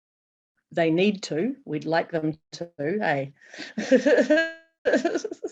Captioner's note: laughs